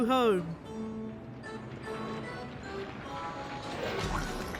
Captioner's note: rubbling